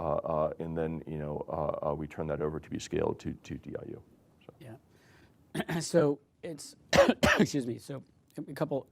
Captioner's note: coughs